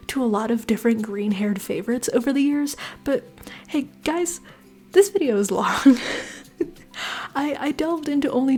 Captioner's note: laughter